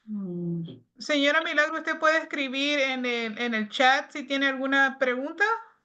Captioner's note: speaking Spanish